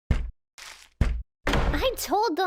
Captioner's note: none